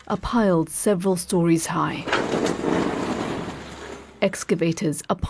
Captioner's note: debris falling